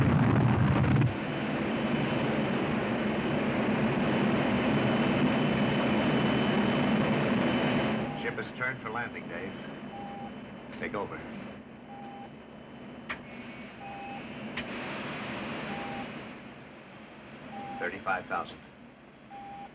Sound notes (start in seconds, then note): 11.9 electronic Beeping